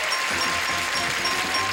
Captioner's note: audience applause; bell dinging